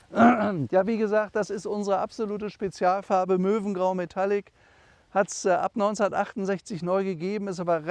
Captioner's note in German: räuspern